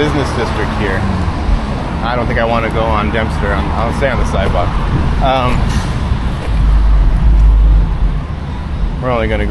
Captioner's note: loud traffic sounds